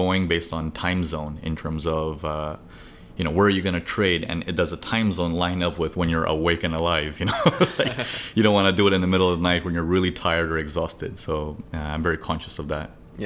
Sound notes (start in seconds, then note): 7.3 laughs